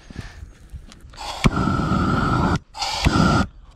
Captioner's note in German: brennerrauschen